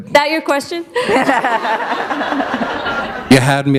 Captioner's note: laughter